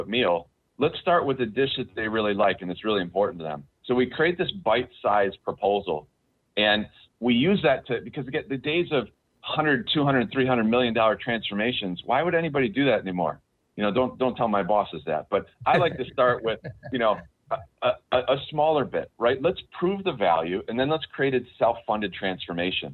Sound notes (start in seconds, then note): 15.6 laughs